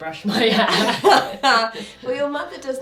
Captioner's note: laughs